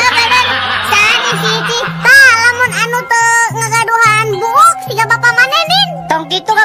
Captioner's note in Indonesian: tertawa